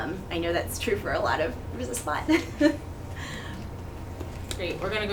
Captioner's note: chuckles